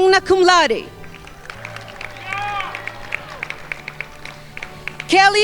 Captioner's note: crowd applauding